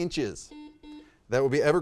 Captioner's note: buzzer dings